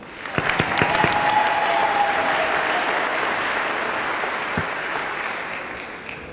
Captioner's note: audience cheering; audience clapping